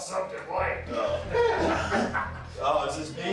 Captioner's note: inmates laugh